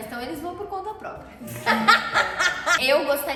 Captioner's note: laughing